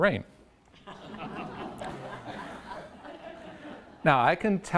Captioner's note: audience laughs